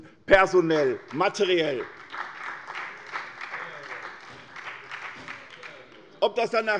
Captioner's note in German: Beifall bei der SPD, der CDU und der FDP